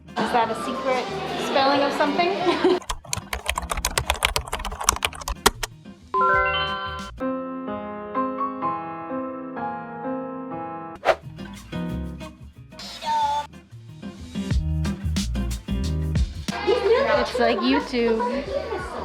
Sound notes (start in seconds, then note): 2.8 typing on keyboard; 6.2 ding; 7.1 sad music; 11.0 swipe